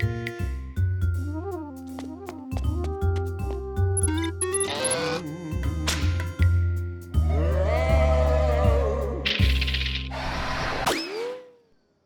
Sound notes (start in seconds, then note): 4.0 electronic beeping; 7.2 ghostly moaning